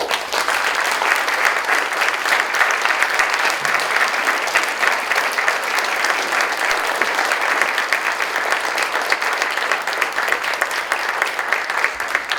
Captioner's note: applause